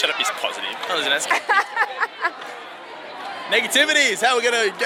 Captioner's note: laughing